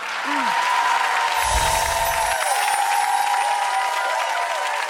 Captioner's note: audience applauds